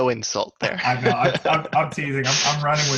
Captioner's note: laughs